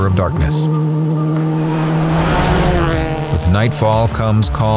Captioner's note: car engine revving